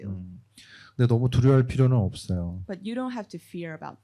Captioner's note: speaking korean